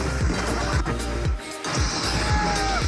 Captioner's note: welcome sound; screams in fear and bats